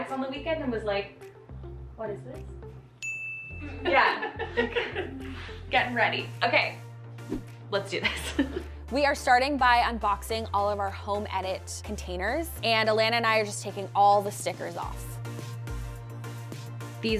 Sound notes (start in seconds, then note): 3.0 ding; 3.6 laughs; 15.0 soft upbeat music